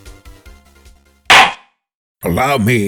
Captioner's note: gavel slams!